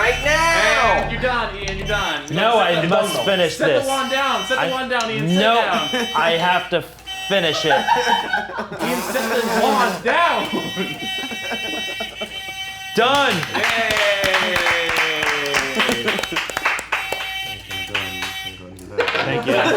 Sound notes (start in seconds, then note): 7.4 everyone laughing; 10.6 hooter buzzing; 14.7 movers clapping; 15.6 hooter buzzing